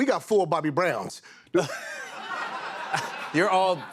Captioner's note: laughter